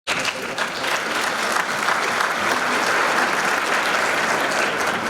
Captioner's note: audience applauding